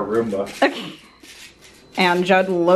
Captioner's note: laughing